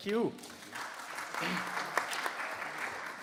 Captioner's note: applause